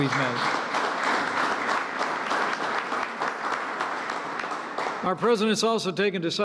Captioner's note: applause